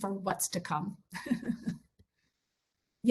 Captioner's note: laugh